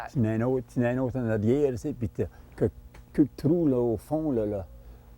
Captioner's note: speaking Acadian French